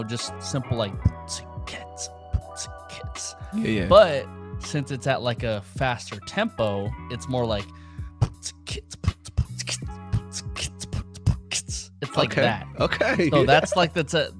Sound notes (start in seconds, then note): 3.5 beatboxing; 8.2 beatboxing